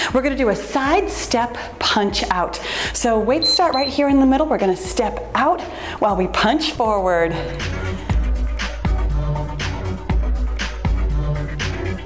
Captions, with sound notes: We're gonna do a side step punch out. So weights start right here in the middle. (timer beeps) We're gonna step out while we punched forward. (cheerful music)